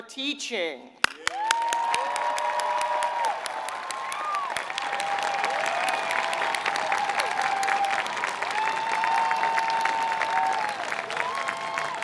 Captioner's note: applause